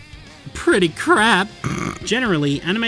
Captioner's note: snort